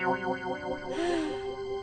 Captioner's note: sighing